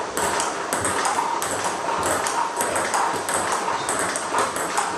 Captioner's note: ball ping pong hitting continues